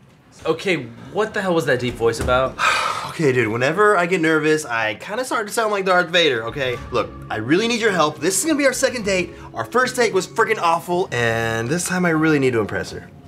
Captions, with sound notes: Okay, what the hell was that deep voice about? (sighs) Okay, dude, whenever I get nervous, I kinda start to sound like Darth Vader, okay? Look, I really need your help. This is gonna be our second date. Our first date was fricking awful, and this time I really need to impress her.